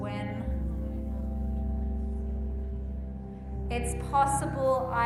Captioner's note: group murmuring